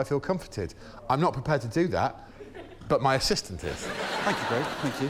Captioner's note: laughter